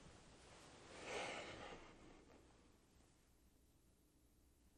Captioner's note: sighing